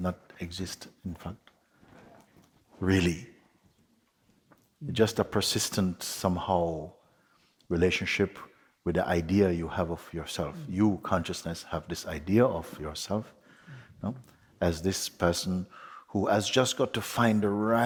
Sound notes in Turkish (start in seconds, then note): none